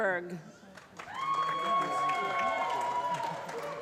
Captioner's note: applause